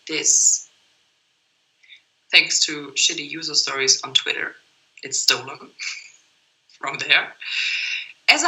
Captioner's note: laughts